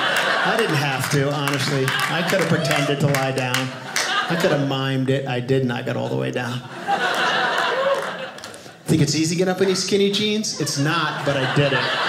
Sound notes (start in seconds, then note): 6.4 audience laughing